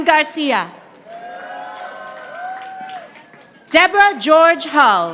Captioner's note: audience applauding